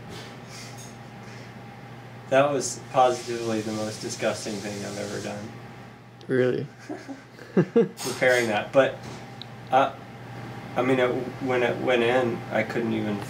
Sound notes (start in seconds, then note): 6.8 laughs